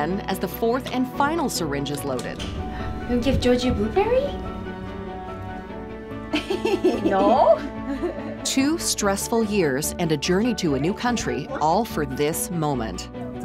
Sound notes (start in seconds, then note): 5.0 bright music; 6.3 laughing